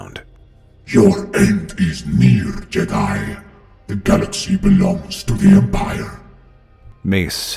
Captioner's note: mocking